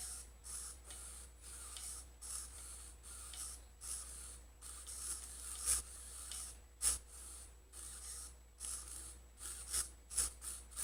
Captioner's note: steering servo noise